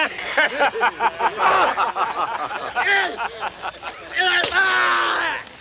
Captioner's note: gang members laughs; Bruto grunts; Bruto screams